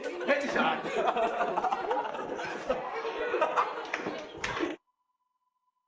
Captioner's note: laugh